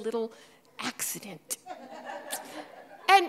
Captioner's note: audience laughing